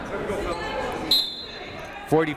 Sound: whistle blowing

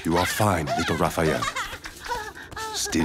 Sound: laughing

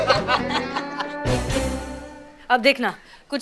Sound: laughing

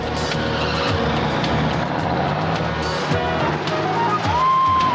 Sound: truck engines roaring

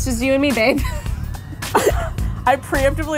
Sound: laughing

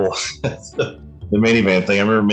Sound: chuckles

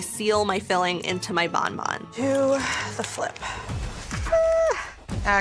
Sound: shrieks

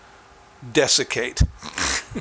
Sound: chuckling

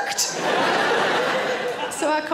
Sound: audience laughs

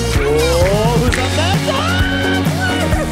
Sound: shrieks

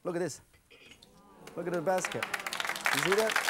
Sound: audience applause

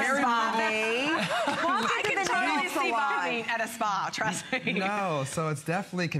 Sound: laughter

